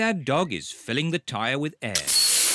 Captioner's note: air hissing